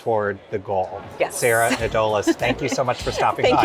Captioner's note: laughs